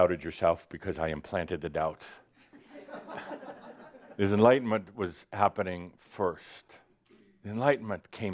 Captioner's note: some chuckles